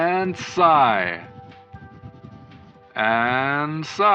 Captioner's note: pencil scribbling